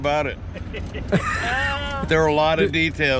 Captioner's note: laughter